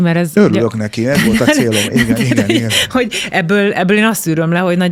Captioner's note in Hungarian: nevetés